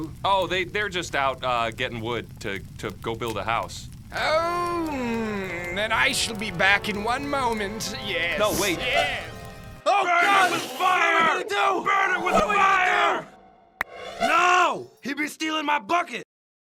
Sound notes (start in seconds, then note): 9.8 screaming